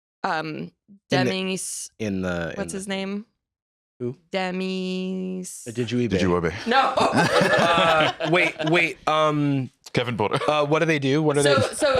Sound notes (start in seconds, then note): 7.0 laughs